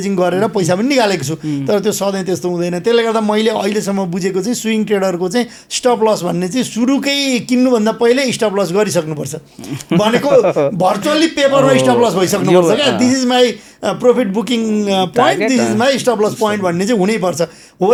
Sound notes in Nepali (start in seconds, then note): 9.6 हास्य